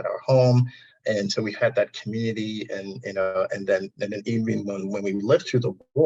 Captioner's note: audio distortion